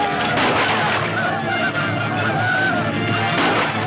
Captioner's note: gunfire pops